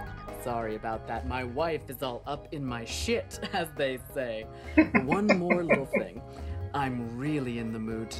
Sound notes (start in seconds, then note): 4.6 chuckling